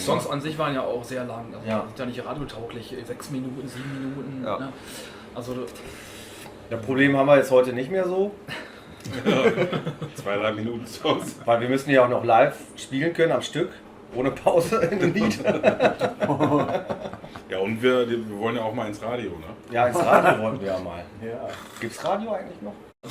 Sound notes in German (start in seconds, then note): 9.0 lachen; 14.8 lachen